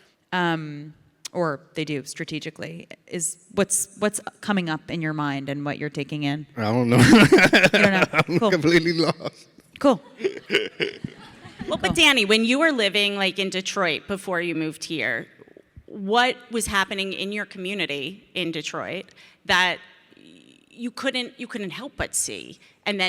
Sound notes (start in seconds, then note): 6.6 laughs; 12.5 audience laughs